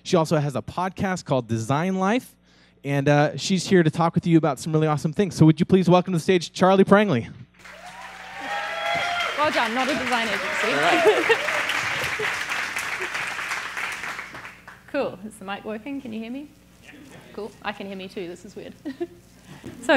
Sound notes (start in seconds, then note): 7.6 audience applauds; 7.6 audience members whooping; 9.3 laughs